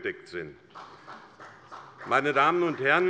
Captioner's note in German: Beifall bei Abgeordneten der SPD